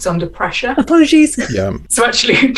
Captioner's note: laugh